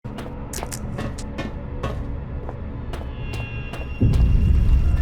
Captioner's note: footsteps on metal and tile, tense hum; bom